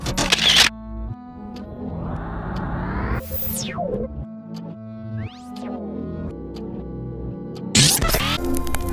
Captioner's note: mechanical Clicking Sound; spinning Intensifies